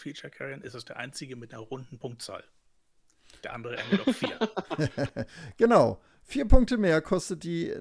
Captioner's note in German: gelächter